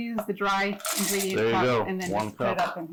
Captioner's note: cocoa clanging on glass bowl